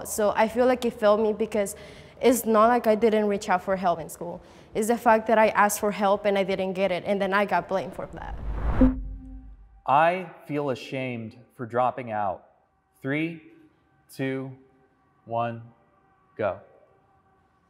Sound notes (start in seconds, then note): 8.6 electronic bloop